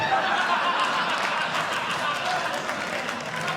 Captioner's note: audience Laughing; audience Clapping